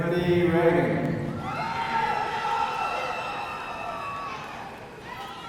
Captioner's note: audience cheering